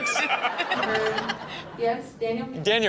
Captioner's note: everyone laughing